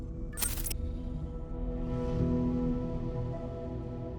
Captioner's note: static crackles